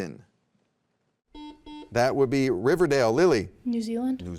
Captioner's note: buzzer beeps